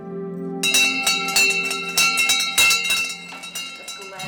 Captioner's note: bell ringing